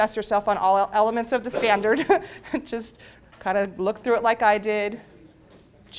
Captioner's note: laughs